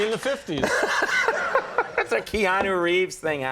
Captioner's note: laughing